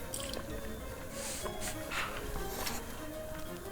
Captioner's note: sniff, sniff... sigh